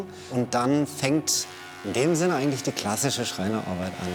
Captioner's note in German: none